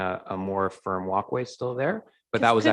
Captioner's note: murmurs